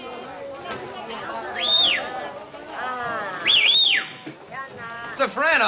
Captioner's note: whistling